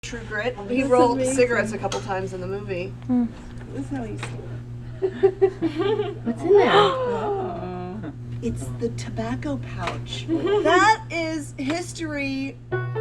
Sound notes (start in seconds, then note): 4.9 laughing; 6.8 gasping